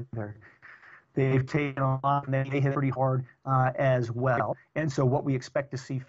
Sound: audio corruption

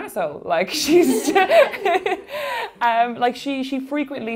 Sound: laughing

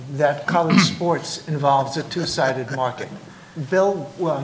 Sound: laughs

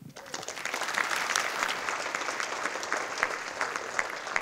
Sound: audience applauding

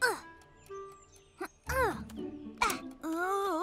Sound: Pinkfong grunts; Hogi grunts

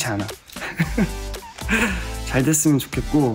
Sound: haha

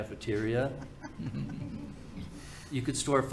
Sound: panel laughing

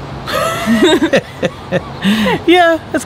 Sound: laughs

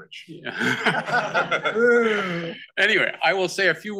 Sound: all laugh

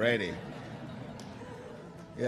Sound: laughter

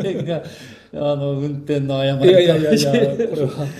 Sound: laughs; laughs

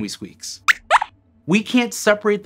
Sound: squeaks squeaks

